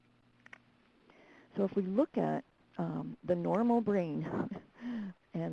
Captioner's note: chuckles